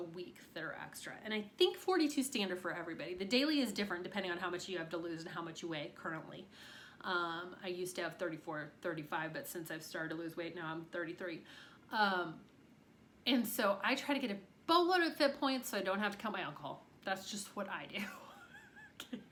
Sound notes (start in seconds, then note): 18.0 chuckles